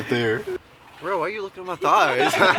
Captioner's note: laughter